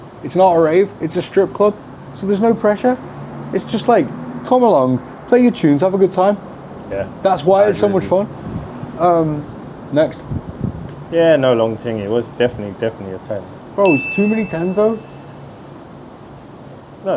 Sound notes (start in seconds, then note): 13.8 bell chime